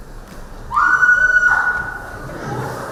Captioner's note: screams